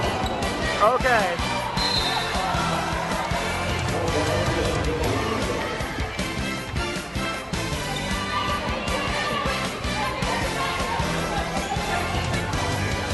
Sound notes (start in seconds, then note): 1.7 referee blows whistle